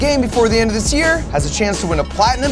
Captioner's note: ticket clinking